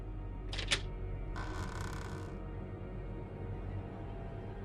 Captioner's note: door creaking